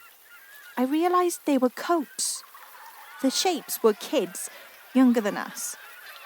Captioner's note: rain falls